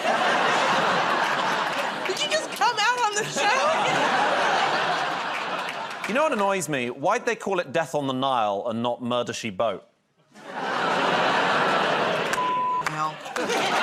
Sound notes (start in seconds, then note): 0.0 laughter; 10.7 laughter, groaning